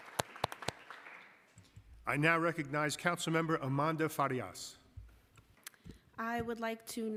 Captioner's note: applause